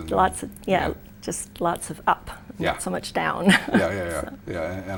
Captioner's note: laughs